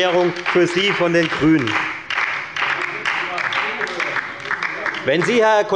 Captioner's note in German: Beifall bei der FDP und der LINKEN